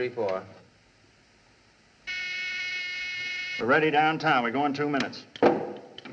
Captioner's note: buzzing